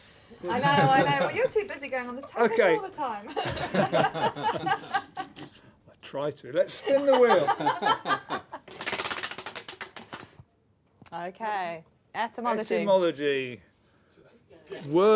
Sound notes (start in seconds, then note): 3.2 laughter; 6.8 laughter; 8.3 ratcheting